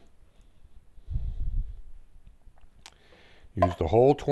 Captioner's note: silence